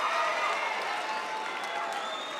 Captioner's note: cheering and applause